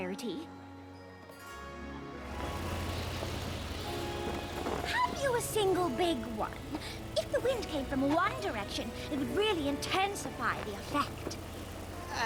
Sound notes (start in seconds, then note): 5.3 shouts